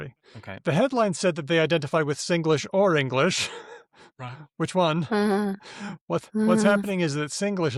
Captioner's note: chuckles